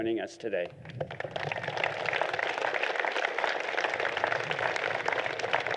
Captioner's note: applause